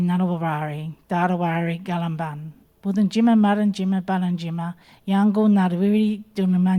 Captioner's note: speaking in Ngunnawal language continues